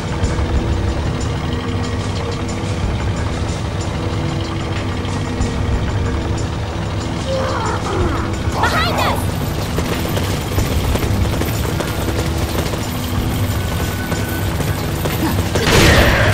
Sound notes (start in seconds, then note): 9.5 Spanish